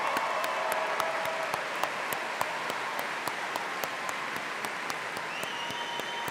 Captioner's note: audience cheering and applauding